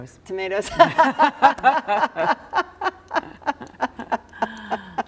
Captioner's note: both laughing